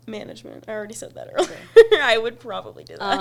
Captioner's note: laughs